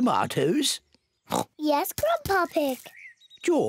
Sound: oinks

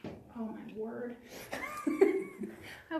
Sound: laughs

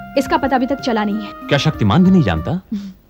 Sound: none

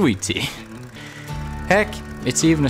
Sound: chuckles

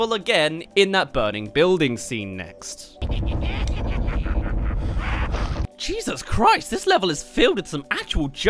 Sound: maniacal laughter

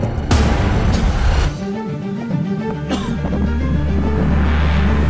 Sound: coughing

